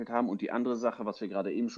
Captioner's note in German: none